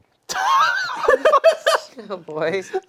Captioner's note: laughing